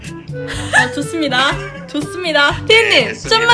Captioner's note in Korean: 비웃는